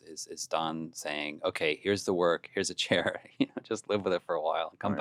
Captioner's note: laughs